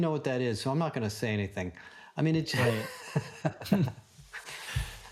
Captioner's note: laughs